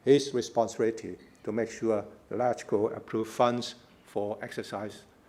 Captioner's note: foreign words